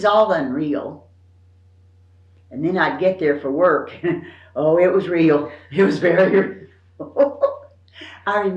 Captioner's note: laughs